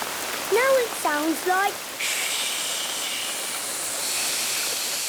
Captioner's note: heavy rain